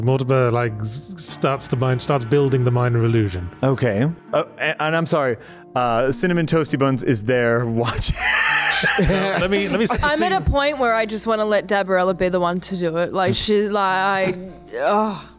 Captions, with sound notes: - Mortimer like starts building the minor illusion. - Okay, and I'm sorry, Cinnamon Toasty Buns is there watching. [It sounds like an animal is dying but in reality, it's laughter] - I'm at a point where I just wanna let Dabarella be the one to do it, like she's like, ugh.